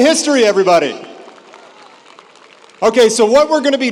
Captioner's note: audience applauds